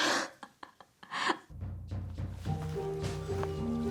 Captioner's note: Alex laughing